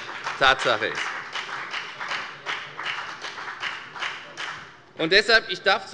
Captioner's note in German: Beifall bei der FDP